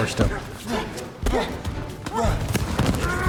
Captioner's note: kids grunt